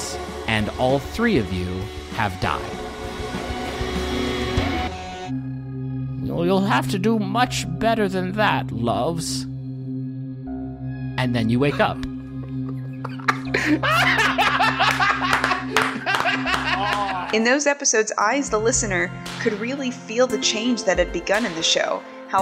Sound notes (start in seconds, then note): 2.4 intense music ends; 12.4 losing his shit and clapping